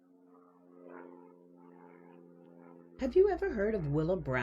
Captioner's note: plane engine sounds